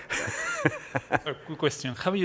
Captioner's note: laughter